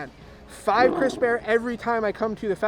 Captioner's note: bear roaring